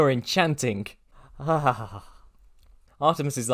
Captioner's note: shudder